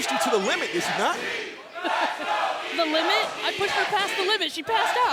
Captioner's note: laughs